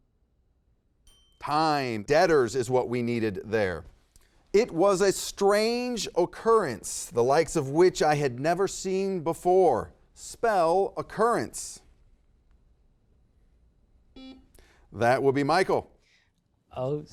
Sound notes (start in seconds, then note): 1.0 timer chimes; 14.2 buzzer beeps